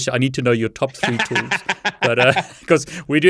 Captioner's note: laughs